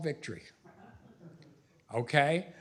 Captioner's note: laughs; laughter